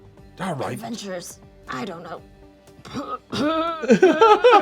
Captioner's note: coughing; GM laughing